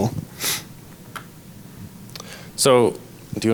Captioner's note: sniffles